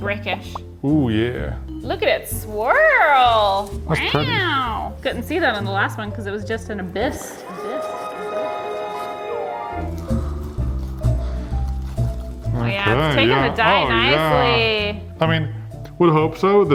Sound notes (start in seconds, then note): 4.0 weooow; 10.0 light music